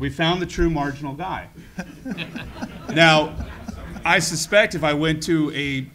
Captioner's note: laugh